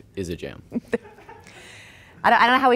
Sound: laughing

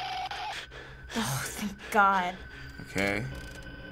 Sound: in game: frantic panting

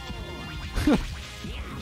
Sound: extremely tiny chuckle

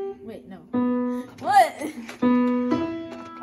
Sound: laughs

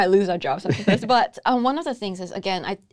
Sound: laughs

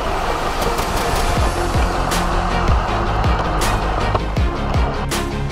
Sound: remote control car engine

